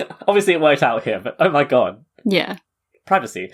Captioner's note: laughing